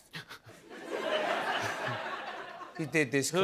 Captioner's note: laughter